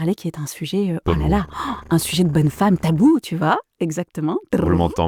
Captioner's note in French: simule un bruit de tambour